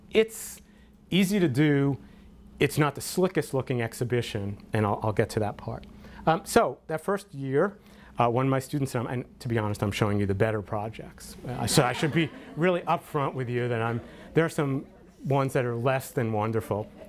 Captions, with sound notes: It's easy to do, it's not the slickest exhibition and I'll get to that part. So that first year, one of my students, and to be honest, I'm showing you the better projects. (audience laughter) So I should be really upfront with you. There are some ones that are less than wonderful.